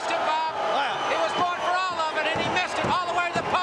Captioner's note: crowd cheering